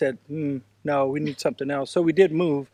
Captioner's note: laughs